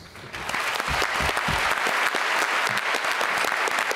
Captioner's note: applause